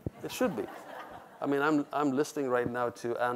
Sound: audience laughs

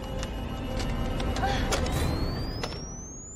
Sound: machine beeps; laser whirs; gasps

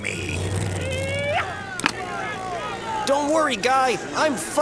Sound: people yelling

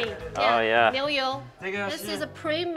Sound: speaking Mandarin

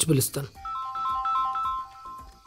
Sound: phone rings

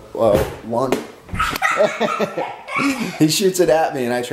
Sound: laughing

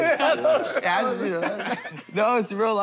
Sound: laughter

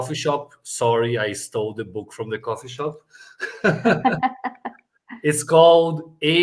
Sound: laughs

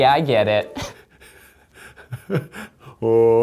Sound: laughing

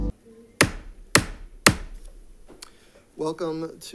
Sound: gavel taps

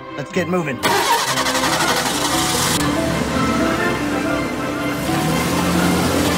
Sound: car engine revs

